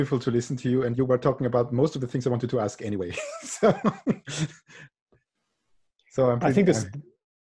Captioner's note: lacht